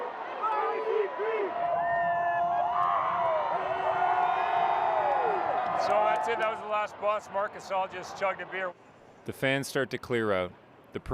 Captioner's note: cheers and Applause